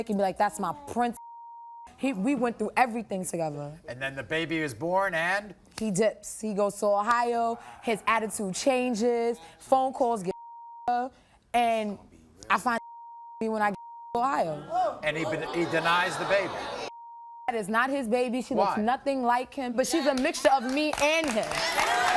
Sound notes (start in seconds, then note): 1.2 beep; 10.3 beep; 12.7 beep; 16.9 beep